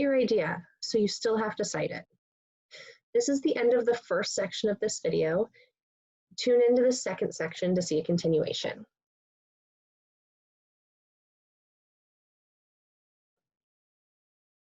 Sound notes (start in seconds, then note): 9.3 silence